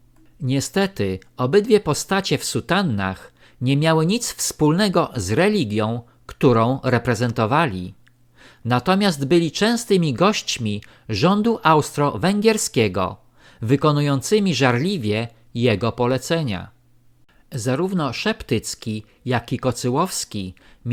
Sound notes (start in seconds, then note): 12.5 German